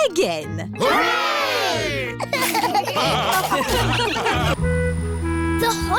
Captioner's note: laughter